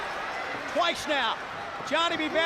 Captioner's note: crowd cheering